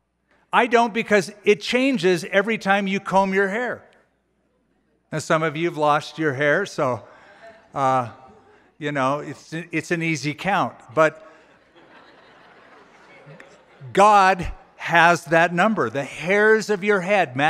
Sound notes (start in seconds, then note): 11.3 laughter